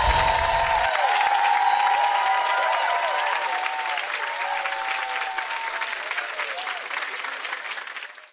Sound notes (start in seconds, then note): 0.0 chimes ring; 4.3 chimes ring